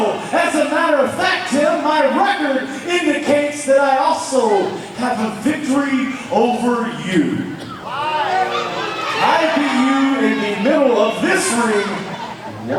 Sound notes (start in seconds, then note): 7.6 audience shouts